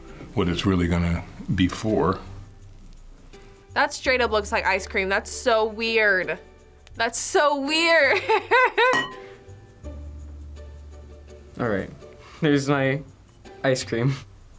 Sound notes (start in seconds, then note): 8.1 laughs